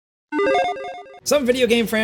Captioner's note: buttons beep